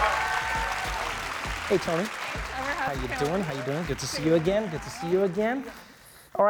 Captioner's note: applause